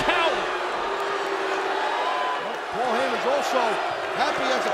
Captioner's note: audience booing